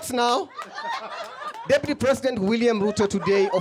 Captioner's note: laughter